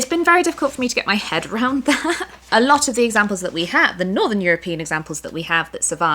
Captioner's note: laughter